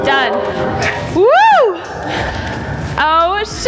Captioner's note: gleeful shriek